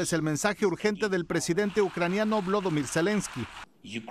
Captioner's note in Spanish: hablado en inglés